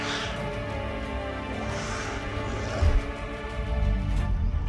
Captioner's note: snarling